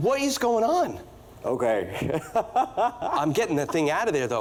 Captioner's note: laughs